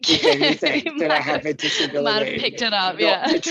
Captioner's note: laughs